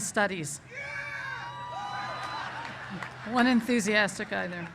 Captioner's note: cheers